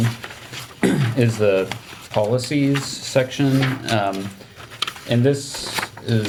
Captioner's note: paper crinkling